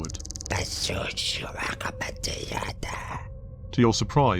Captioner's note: speaks alien language